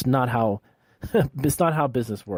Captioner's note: chuckles